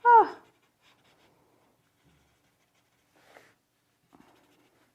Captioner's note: pencil scraping